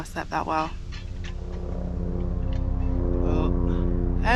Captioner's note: fun plane flying about